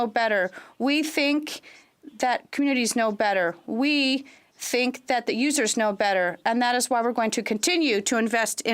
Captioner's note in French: voix de l'interprète